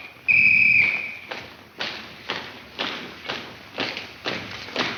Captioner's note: whistle blares; footsteps click